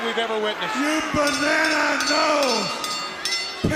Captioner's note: bell ringing